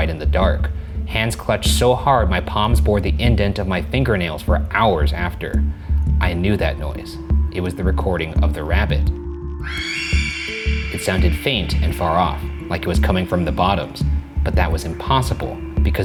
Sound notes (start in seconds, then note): 9.6 screaming